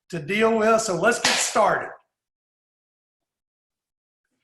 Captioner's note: claps